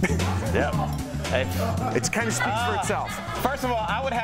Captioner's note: laughter